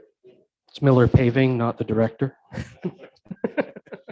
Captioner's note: laughing